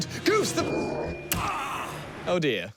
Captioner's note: groans